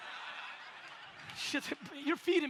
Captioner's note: audience laughs